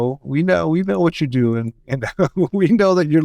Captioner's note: laughs